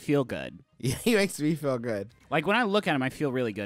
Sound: laughing

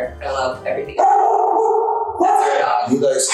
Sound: dog barking

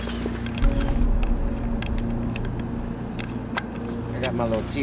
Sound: ominous music continues; gear rattling

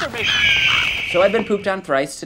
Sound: screeching bird

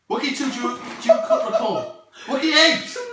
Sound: Ben starting to laugh off screen

